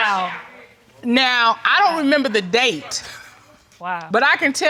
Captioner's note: chuckles